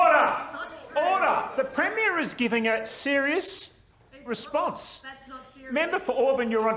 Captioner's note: general uproar